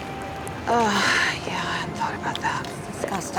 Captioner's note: sighs